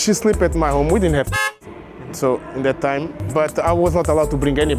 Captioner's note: car horn